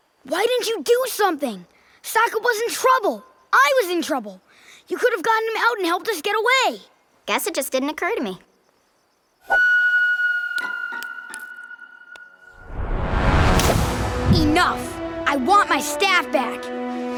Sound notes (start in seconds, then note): none